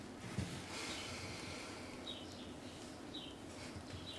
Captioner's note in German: Seufzen, leises Vogelgezwitscher